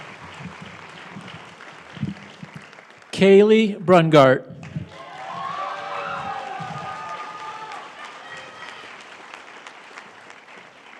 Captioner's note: applause